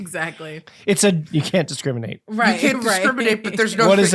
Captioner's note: jokingly